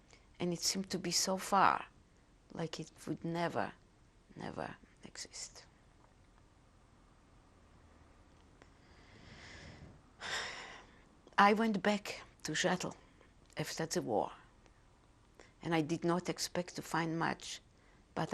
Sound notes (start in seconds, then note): 6.3 pauses for 3 seconds; 10.2 sighs